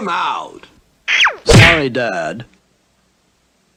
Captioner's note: smack!